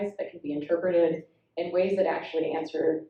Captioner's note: none